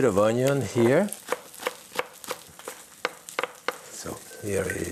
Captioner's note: knife chopping